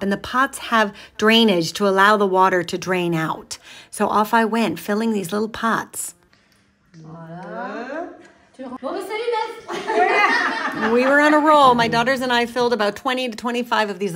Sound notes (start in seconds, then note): 7.2 women speaking in foreign language; 9.6 women laughing